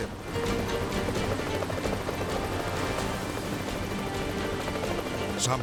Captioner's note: propellers humming; suspenseful music